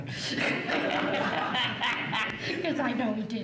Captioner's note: laughs